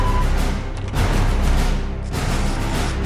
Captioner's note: distant robotic footsteps